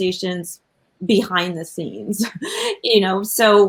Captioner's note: laughs